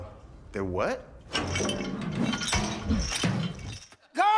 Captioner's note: chain rattles, buckets clanking